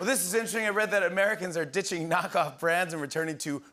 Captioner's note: laughs